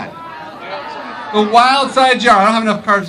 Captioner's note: crowd yells